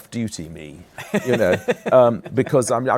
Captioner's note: laughs